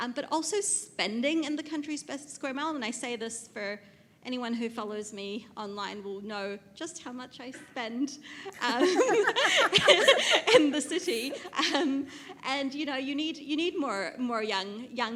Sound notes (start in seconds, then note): 8.6 loud laughing